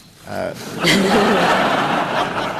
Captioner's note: laughter